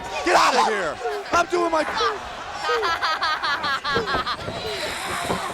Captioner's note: Daffney laughing